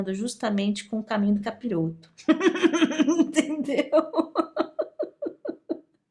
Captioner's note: laughs